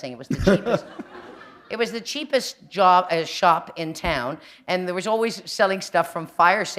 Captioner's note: laughter